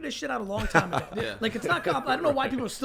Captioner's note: laughs